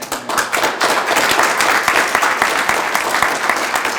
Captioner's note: group applauding